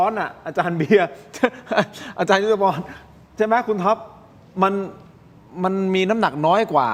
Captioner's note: laughter